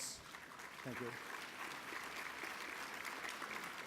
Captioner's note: applause